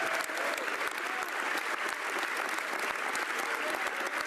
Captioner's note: some Applause